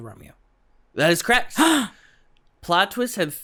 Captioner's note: gasp